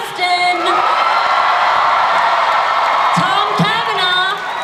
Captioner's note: audience screams; audience cheers